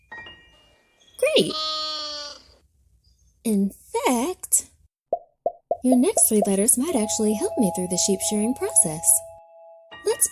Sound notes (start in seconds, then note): 0.0 piano twinkling; 1.4 baa-ing; 5.5 letters popping and ringing